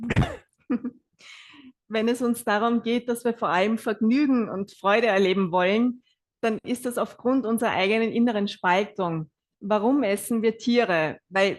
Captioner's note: German live translation